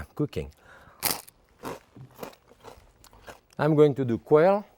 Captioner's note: toast crunching